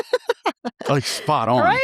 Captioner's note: laughing